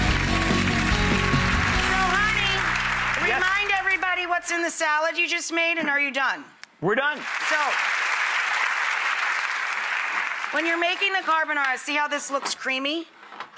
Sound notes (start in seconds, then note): 0.0 applause; 0.0 upbeat guitar music; 7.1 applause